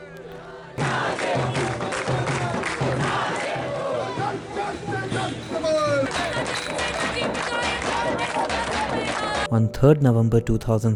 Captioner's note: protesters shouting